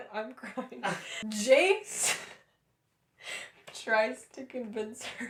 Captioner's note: laughter